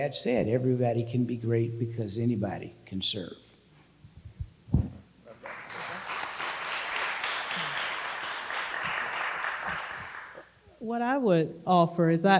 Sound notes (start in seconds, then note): 5.3 audience applauding